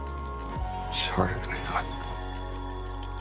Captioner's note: voiceover